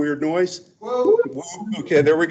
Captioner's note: person whoops